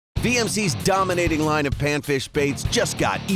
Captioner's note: voiceover